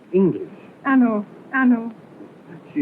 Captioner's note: speaking portuguese